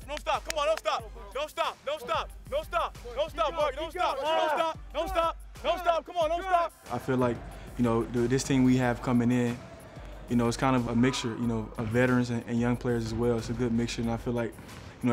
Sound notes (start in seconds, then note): 4.0 players shout